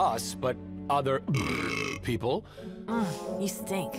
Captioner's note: belches